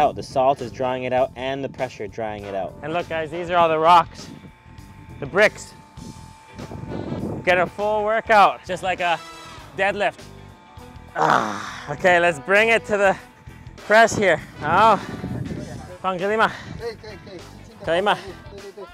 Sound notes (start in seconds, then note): 11.1 grunts; 14.5 speaker faintly speaks; 15.8 speaks in foreign language; 17.1 speaker speaks in foreign language; 18.0 speaks in foreign language